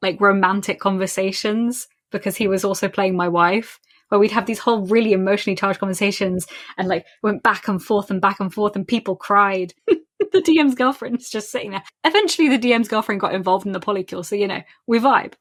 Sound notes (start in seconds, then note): 9.7 laughing